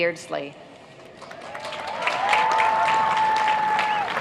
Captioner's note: applauding